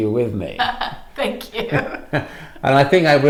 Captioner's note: laughing